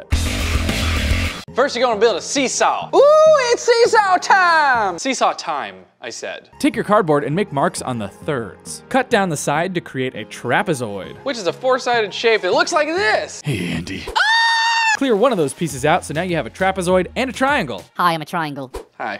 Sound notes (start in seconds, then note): 0.1 intense music; 14.1 screaming